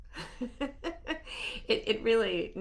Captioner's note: laughing